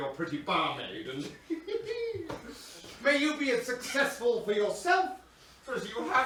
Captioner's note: laughs